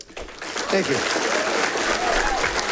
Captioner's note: audience applauding and cheering